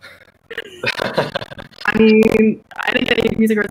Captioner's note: people chuckle